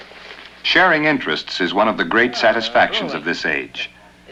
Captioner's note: none